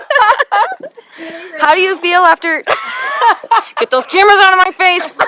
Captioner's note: laughing